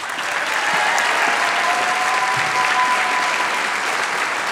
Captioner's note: applause